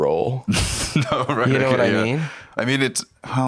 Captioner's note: laughing